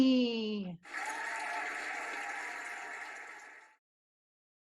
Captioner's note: cheering and applauding